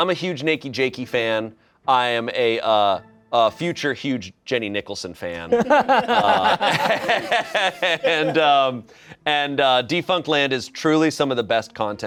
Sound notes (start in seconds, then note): 5.5 everyone laughs